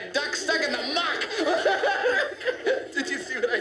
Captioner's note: laughter